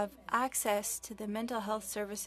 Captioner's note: speaking French